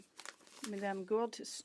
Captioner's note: speaking French